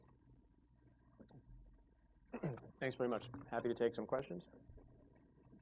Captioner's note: clears throat